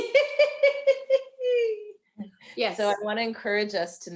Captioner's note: laughing loudly